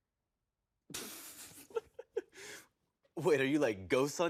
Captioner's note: Steve laughing